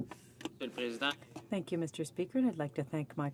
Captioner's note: speaking french